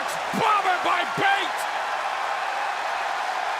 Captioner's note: crowd cheering